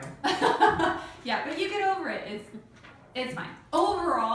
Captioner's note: laughing